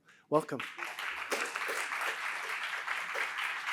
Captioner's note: applause